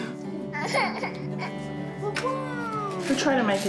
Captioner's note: cries; exclaims